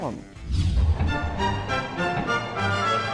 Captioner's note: classical string music; rocket blasting